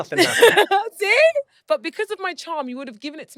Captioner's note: laughs